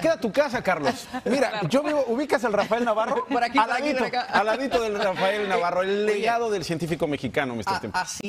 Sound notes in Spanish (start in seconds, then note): 4.5 risas